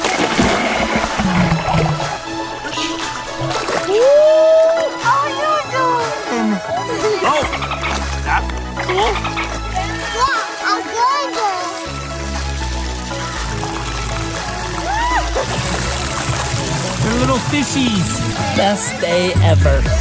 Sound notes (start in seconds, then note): 0.0 splash; 6.7 water splashing; 8.7 dolphin sounds